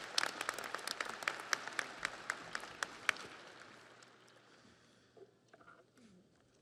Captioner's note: audience applauds